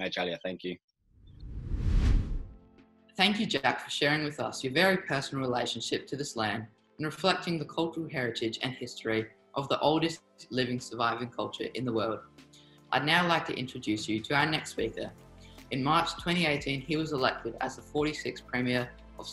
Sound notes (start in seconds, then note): 0.1 speaking in a native language; 1.3 air whooshing